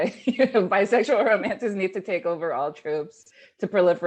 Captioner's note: laughing